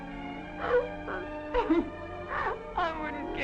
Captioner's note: sobbing